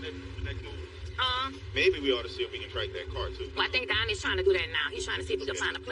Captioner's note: people chatteringring fain